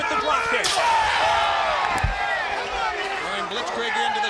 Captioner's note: crowd cheering